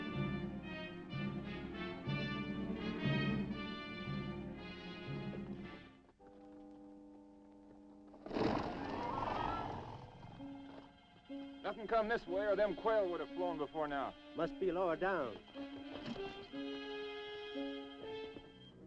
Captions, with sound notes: (horse hooves clopping) - Nothing come this way, or them quail would have flown before now. - Must be lower down. (dramatic music)